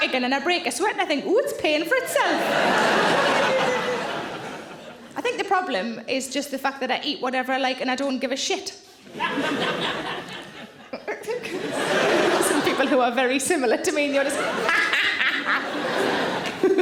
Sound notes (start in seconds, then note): 2.2 audience laughing; 9.1 audience laughing; 14.8 Sarah cackles